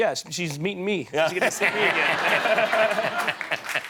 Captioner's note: laughter